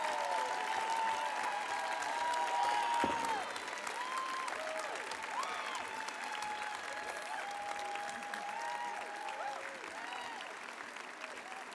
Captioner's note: applause; cheering